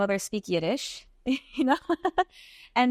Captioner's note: giggles